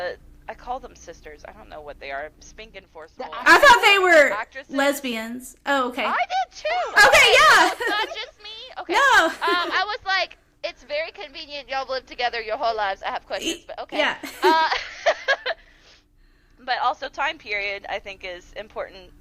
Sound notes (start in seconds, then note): 14.2 laughter